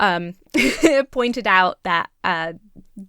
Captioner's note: chuckles